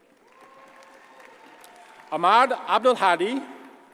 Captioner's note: audience cheers and applauds